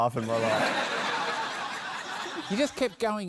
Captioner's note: laughter